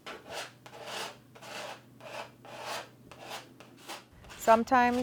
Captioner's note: brush stroking on a canvas